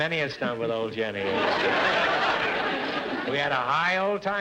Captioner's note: audience laughter